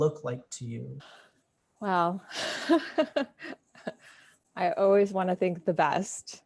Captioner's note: laughs